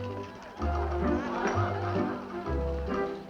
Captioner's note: laughter